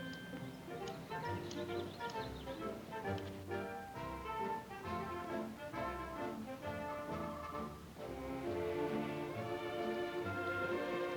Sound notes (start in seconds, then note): 0.0 birds chirping; 0.9 gentle music